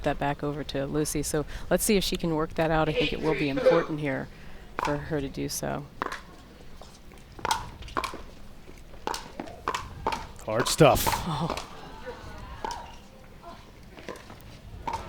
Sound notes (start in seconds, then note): 10.7 groans